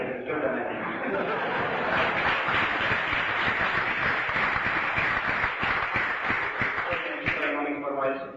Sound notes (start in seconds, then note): 0.8 laughter, applause